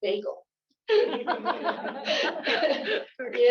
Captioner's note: laughter